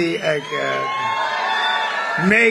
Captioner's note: applause